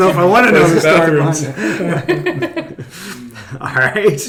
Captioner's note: laughing